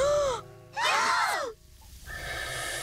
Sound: gasping

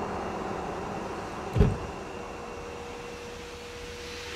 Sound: soft thud

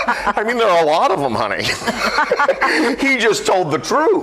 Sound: group laughs; laughs

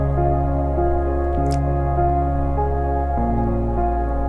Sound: newt splashing

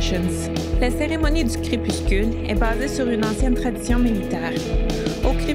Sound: repeats the message in French

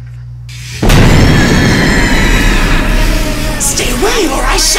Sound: screaming

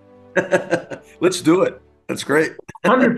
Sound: laugh

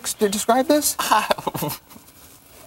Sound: laughs

